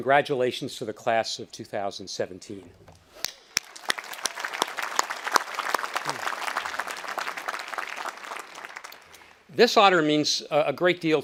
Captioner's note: speaker, audience applauding